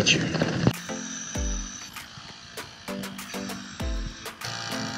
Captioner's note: buzz of dive compressor